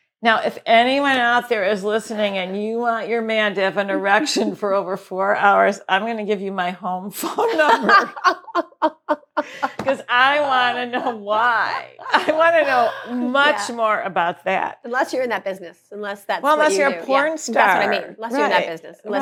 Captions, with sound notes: now if anyone out there is listening and you want your man to have an erection for over four hours, I'm going to give you my home for… [Laughs] Because I want to know why, I want to know much more about that. Unless that you are in the business, unless that’s who you are. Unless you are a porn star, right.